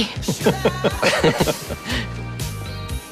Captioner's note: laughing